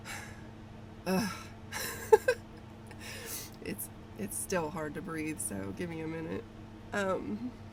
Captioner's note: laughs at self